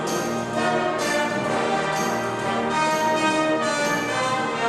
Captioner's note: applause